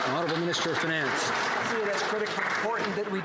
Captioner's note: some Applause